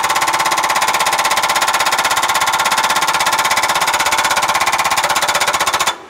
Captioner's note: construction noise